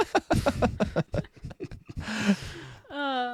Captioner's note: laughing